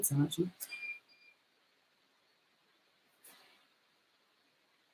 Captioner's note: washing machine beeps